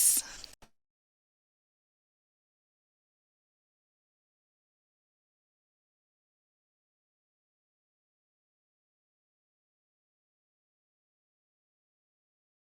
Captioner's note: silence